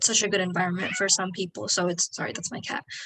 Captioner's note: cat meows